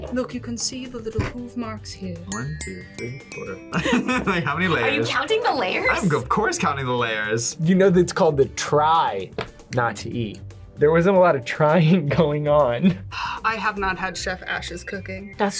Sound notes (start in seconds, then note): 3.7 laughs; 12.9 sighs